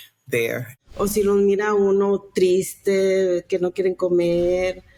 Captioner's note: speaking Spanish